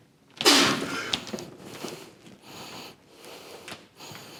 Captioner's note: breathing heavily